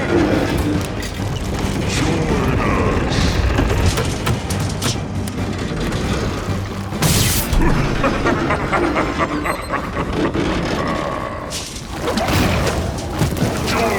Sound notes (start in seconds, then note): 6.9 electricity buzzes; 8.0 Steenium cackles; 12.2 intense music continues